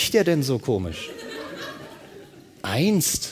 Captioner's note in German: Lachen